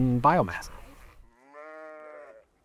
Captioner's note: sheep baaing